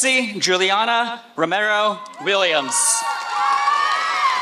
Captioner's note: applause